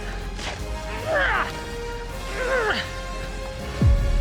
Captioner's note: grunting